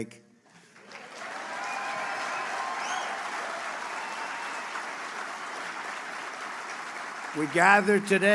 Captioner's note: applause